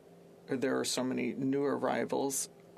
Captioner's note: speaking French